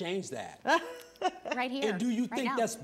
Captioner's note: laughing